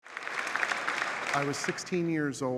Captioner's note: audience applauding